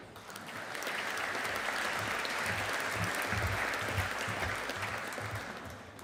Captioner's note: audience applauding